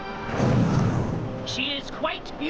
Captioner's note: woosh